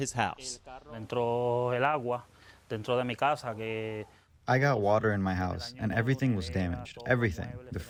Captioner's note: through translator